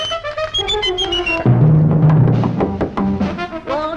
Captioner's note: knock On Door